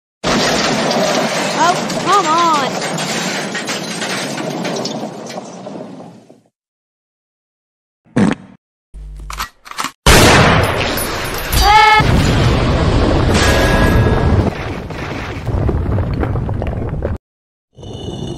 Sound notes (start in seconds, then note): 0.2 massive Explosion; 11.6 both Screaming; 11.9 explosion